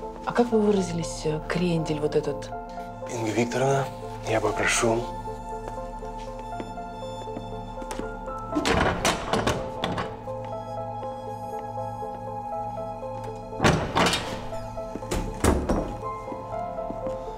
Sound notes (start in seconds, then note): 8.5 door clicks open; 13.6 door clicks shut